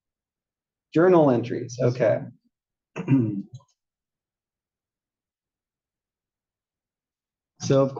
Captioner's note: cough